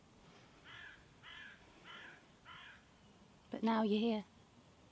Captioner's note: bird calling